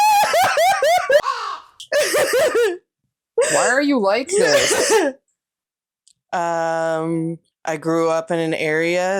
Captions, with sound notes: [CAW]. Why are you like this? I grew up in an area